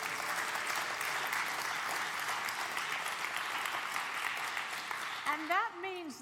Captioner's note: applause